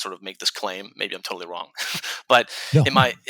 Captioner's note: chuckles